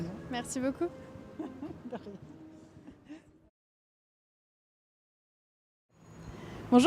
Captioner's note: laughs